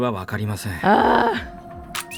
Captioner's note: groans